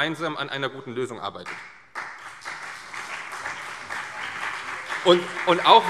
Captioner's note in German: Beifall CDU und BÜNDNIS 90/DIE GRÜNEN